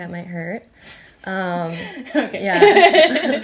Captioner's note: laughing